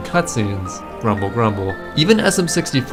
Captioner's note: grumble grumble